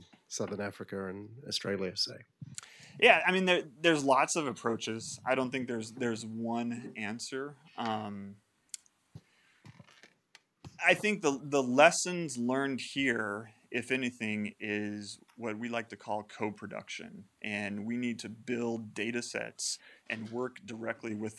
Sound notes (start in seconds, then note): none